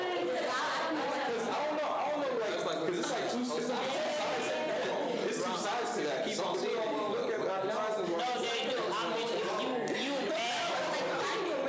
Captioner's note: students chatter